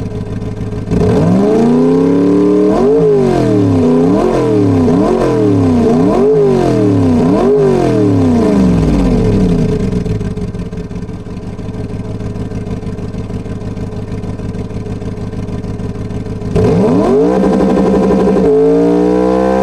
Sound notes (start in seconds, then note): 0.9 revving engine like a maniac